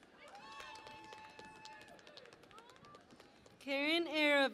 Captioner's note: cheering and Applause